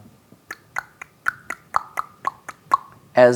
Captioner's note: imitates gear clicking